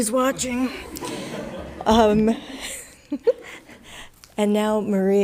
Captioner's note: audience laughing